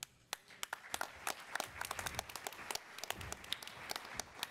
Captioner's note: attendees applauding